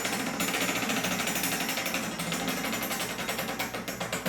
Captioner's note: metal rattling